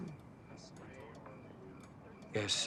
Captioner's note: officers chattering